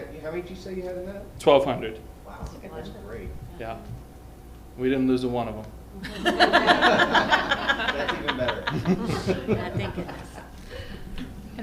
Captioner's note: laughter